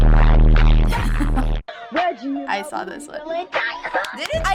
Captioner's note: chuckles; laughs; claps